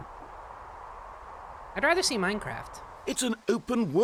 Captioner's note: wind howling